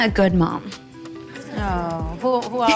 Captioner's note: moms mumble agreements